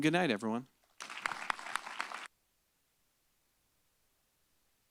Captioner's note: applause